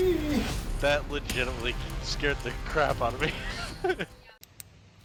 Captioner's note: nervous laughter